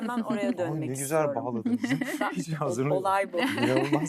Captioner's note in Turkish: kahkaha